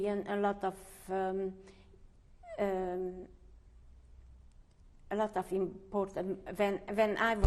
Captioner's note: pauses for 3 seconds